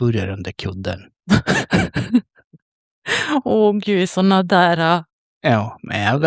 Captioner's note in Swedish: skratt